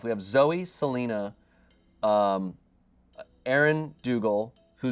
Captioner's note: none